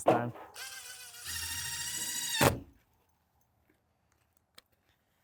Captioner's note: drill running